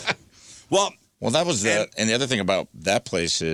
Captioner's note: laughing